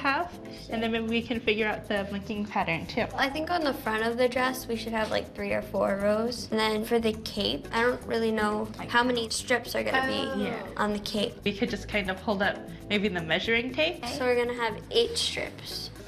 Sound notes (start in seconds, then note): none